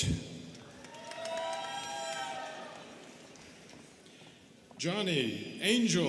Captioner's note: students cheering and clapping